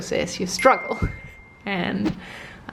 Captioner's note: bell dinging